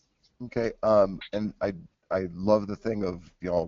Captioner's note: voiceover